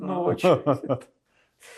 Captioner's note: laughing